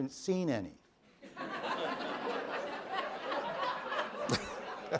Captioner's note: laughter